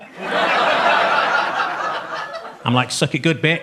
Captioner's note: audience laughs